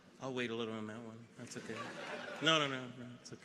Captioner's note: audience laughs